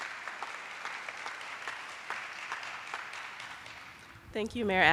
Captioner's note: attendees applauding